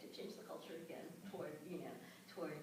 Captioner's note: none